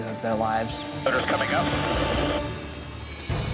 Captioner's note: man Over Radio